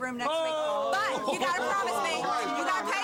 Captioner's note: crowd